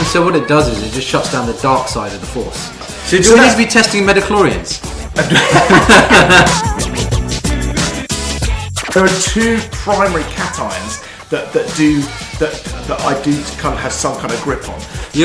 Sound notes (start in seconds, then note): 5.0 both laughs; 5.3 upbeat music